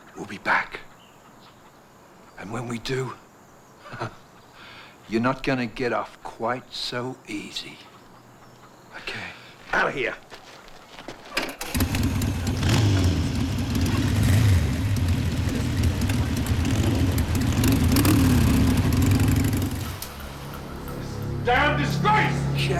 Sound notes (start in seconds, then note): 3.8 laughs; 11.6 motorcycle engines revving; 20.0 slow music